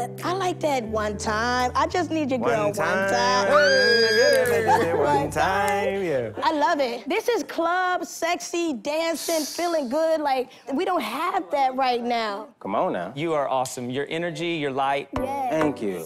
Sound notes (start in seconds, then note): 3.6 squeals; 4.3 vocalizing